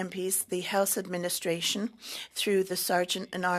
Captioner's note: speaking French